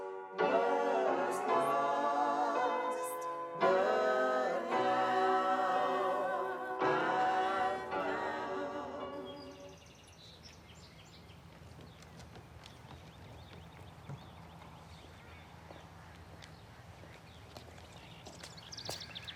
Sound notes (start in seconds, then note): 9.2 birds chirping